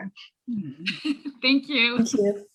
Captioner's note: laughs